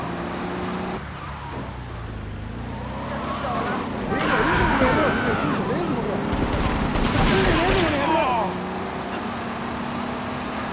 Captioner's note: sirens wailing